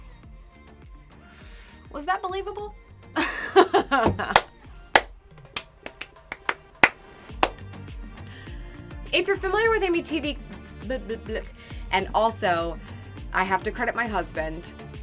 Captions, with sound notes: Was that believable? (laughing) (clapping) If you're familiar with AmyTV, and also I have to credit my husband.